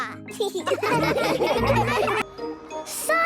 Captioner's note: laughing